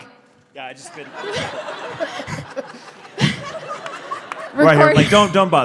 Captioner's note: laughter